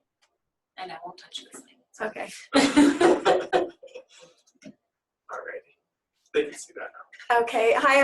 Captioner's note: laughter